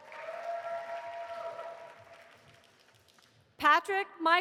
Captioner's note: audience applauding